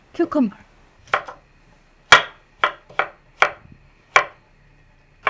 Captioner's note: knife chopping